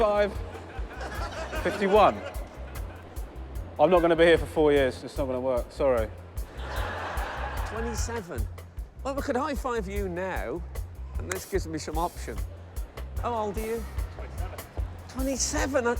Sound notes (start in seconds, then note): 0.3 laughter; 6.4 laughter